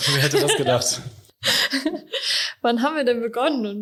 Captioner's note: laughter